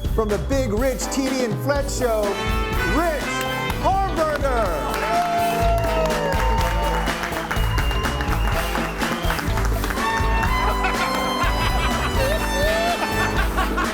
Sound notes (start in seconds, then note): 5.4 group cheers and applauds; 8.0 upbeat music; 10.1 group laughs